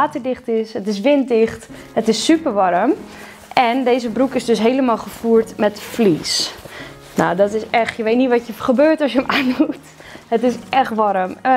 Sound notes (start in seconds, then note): 9.2 giggles